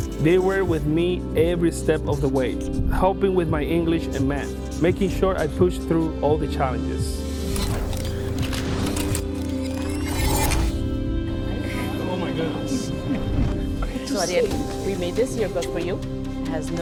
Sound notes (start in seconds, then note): 7.6 camera whirs; 7.6 gentle music continues